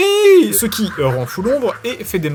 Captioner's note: evil laugh.mp4